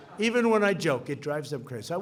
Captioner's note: laughter